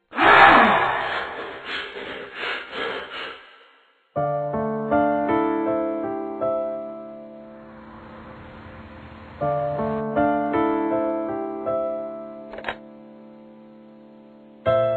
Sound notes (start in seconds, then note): 0.1 Kyle gasping, heavy breathing; 7.1 car rolling; 12.5 phone picked from receiver